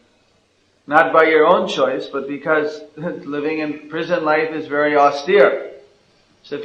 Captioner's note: chuckles